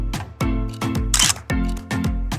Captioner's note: photo click